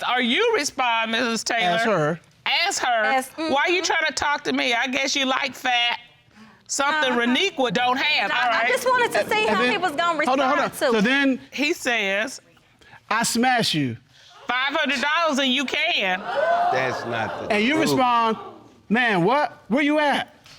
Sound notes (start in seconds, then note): 16.0 audience exclaims